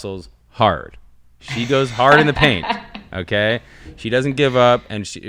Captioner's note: chuckling